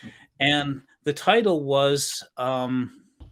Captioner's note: abbreviated speech